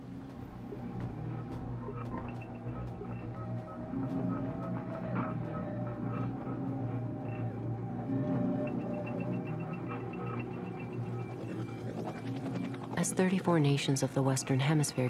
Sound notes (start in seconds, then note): 0.1 light electronic music; 11.6 helicopter whirring